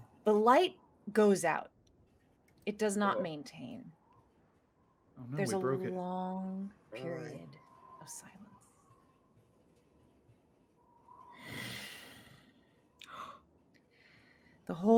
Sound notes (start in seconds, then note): 9.8 wind blowing; 11.3 loudly exhales; 13.3 gasps